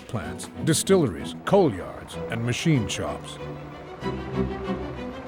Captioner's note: machinery humming